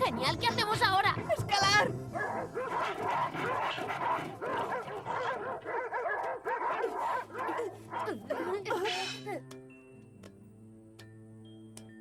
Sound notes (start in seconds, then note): 2.0 wolves barking